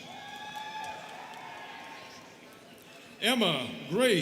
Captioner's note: students cheering